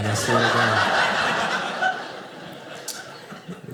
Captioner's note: audience laughing